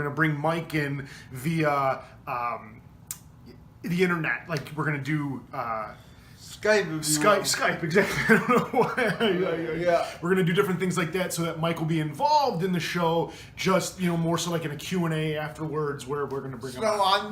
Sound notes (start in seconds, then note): 7.9 laughs